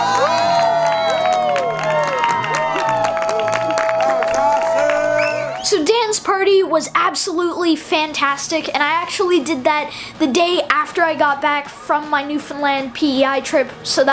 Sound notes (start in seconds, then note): 2.1 people cheering